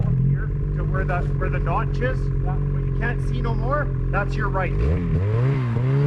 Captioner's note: snow mobile engine revving